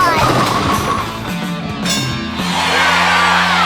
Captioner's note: the opposing team clatter like bowling pins; cheering